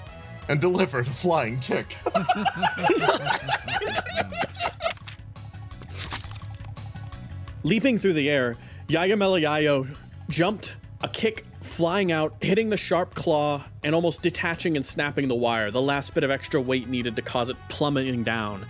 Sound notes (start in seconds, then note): 2.0 laughs